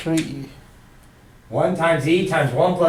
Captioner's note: voiceover